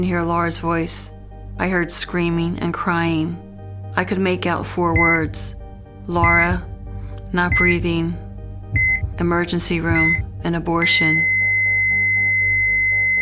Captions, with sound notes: hear Laura's voice, I heard screaming and crying. I could make out four words. (heart monitor beeping) Laura, not breathing, emergency room, and abortion. (flatline)